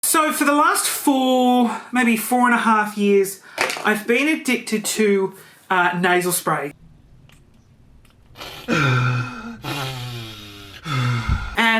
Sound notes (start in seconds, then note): 8.3 breathes heavily; 8.3 sniffles